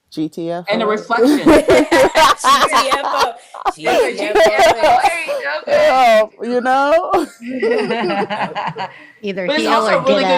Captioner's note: laughs